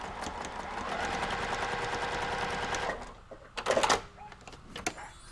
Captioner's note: sewing machine hums